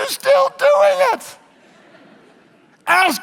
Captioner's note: audience laughs